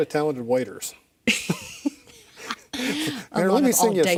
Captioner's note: laughing